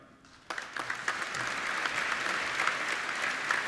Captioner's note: applauding